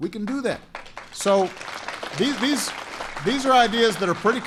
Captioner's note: applause